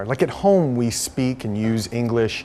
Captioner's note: none